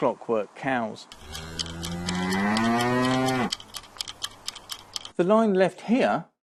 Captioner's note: sound fx of mooing cows and a clockwork noise